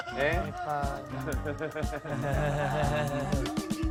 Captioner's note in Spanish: Risas